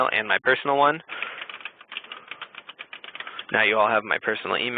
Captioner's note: typing